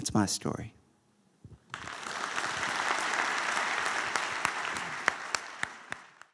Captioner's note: applause